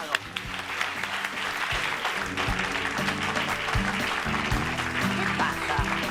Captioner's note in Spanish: Aplausos